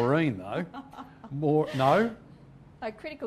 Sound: laughing

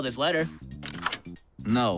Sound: lock clicks

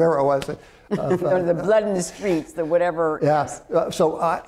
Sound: laughs

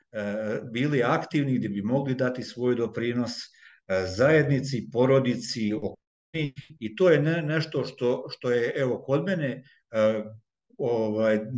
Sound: non-english speech

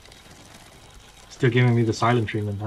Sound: leaves softly rustle

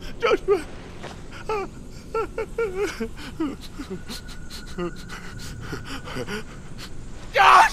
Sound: weeping

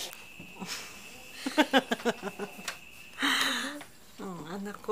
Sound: laughs

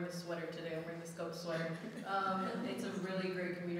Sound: audience laughing

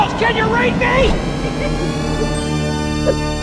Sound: innocent laugh

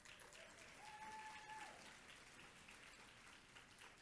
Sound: audience applauds

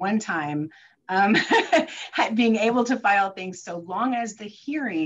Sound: chuckles

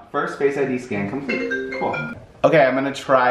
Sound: phone beeping

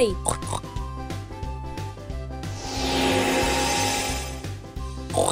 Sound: pig oinking; oinking continues

